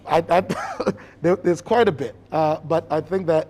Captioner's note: chuckles